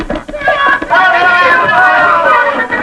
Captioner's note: all yelling